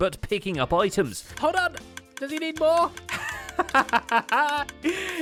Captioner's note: laughs